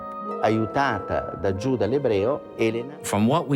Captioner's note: speaking in foreign language